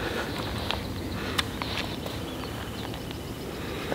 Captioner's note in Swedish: fågelkvitter hörs